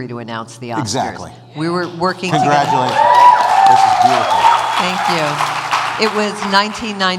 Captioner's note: cheers